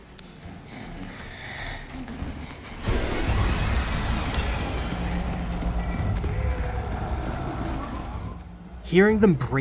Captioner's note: regenerador noises